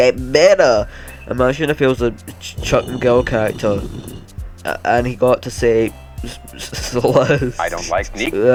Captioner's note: giggle; stone sliding